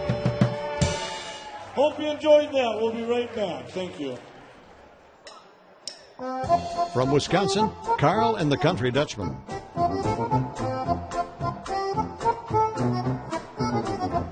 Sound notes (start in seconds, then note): 8.1 voiceover; 10.7 snappy polka